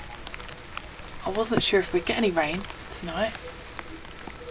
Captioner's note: light rain